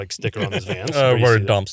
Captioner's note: laughs